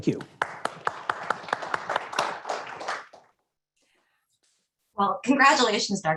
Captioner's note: clapping